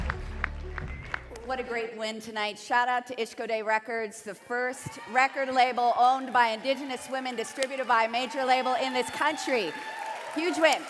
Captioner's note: cheering and Applause